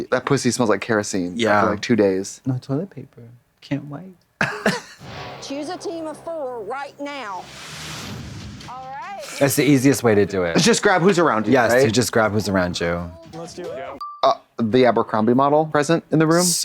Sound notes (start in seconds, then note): 4.4 women chuckle; 7.6 tense music; 13.8 pause chime